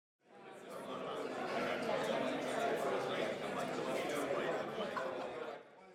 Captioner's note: background chatter